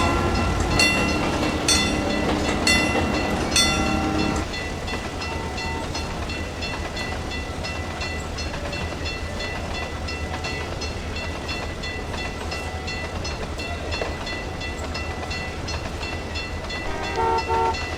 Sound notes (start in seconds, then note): 1.7 wig wag ringing; 4.9 ringing stops; 9.9 fast clickety-clack sounds in the distance